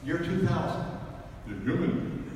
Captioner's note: talking in overly dramatic tone